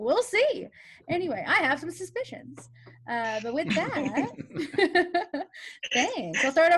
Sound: laughs

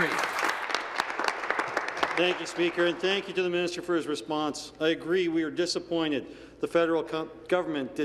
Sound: applause

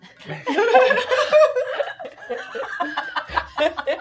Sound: gamers laughing

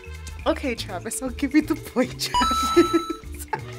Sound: laughs

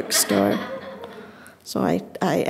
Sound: audience laughing

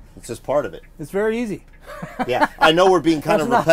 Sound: laughs

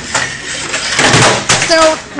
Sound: clattering

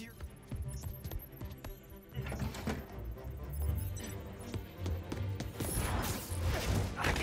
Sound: none

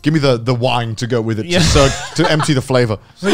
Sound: laughing

